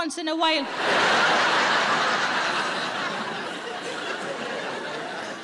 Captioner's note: audience laughing